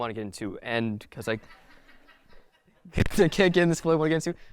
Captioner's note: audience laughing